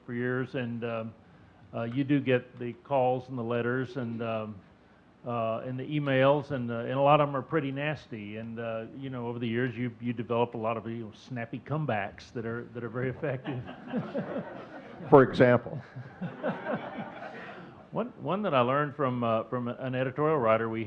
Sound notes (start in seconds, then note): 13.4 audience chuckling